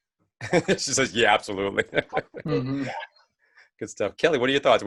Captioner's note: laughing